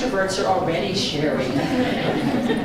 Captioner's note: indistinct chatter and sharing